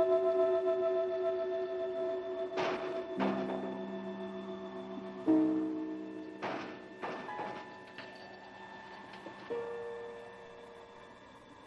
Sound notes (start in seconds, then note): 2.5 window banging; 4.9 wind blowing